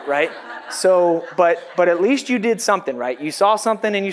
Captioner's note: audience laughs